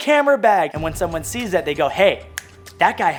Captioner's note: snaps